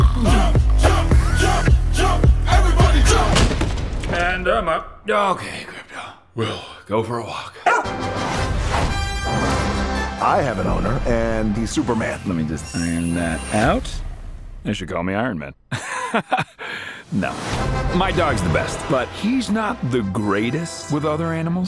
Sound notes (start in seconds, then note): 3.2 thud; 7.6 barks; 15.7 laughs